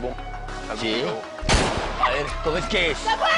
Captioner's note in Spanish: Disparos